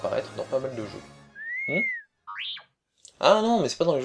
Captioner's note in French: R2 siffle et bipe